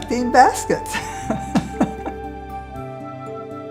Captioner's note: laughs